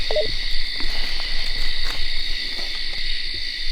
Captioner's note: walkie beeps